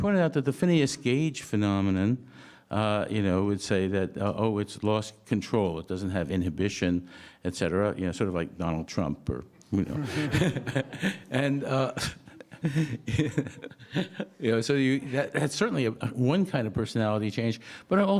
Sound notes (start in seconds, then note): 9.8 laughs